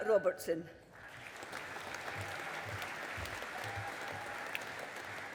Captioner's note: audience applauding